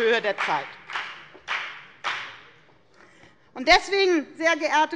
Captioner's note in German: Beifall bei der FDP